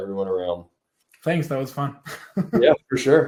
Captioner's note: laughs